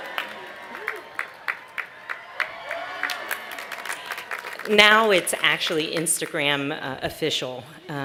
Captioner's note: cheers and applause